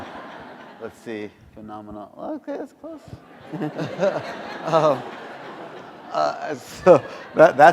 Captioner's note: laughter